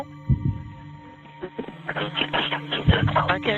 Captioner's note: staticky buzzing